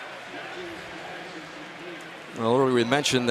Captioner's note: pa announcement